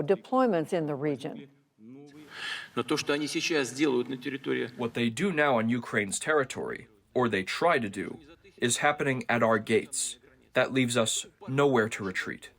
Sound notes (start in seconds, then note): 3.3 through translator